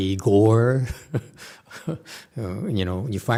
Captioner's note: laughs